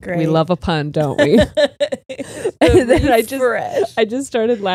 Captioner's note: laughs